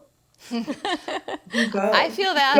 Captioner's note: group laughs